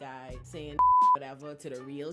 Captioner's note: beep